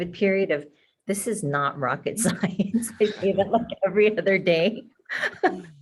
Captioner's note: laughing